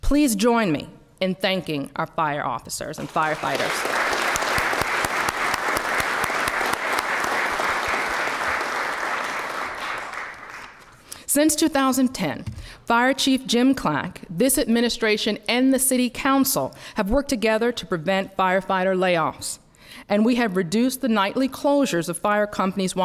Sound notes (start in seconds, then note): 6.8 applause